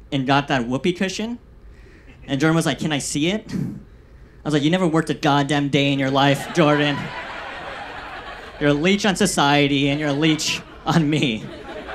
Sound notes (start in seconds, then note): 6.2 audience laughs